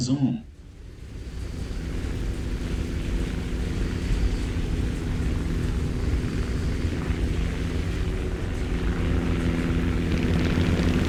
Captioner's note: aircraft Engines ,Gunfire, Flying Sounds